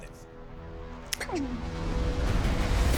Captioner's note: exclaims